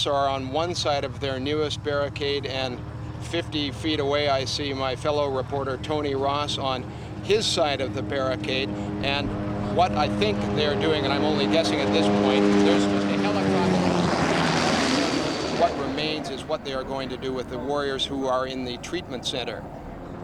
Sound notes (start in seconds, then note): 12.4 helicopter